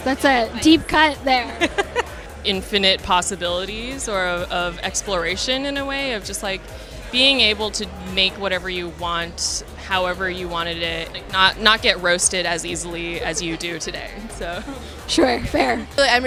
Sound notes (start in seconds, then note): 1.4 laughs